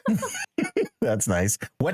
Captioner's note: laughing